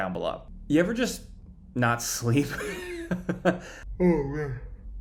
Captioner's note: laughing